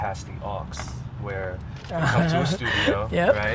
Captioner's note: laughs